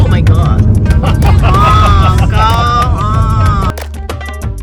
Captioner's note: laugh